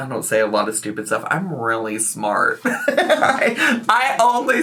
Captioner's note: laughs